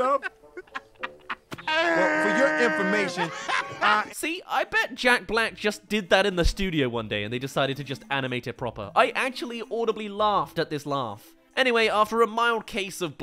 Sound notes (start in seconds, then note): 2.8 gasp laughs